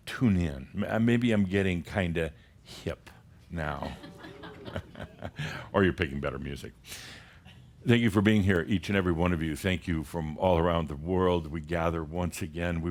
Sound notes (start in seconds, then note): 3.8 some chuckles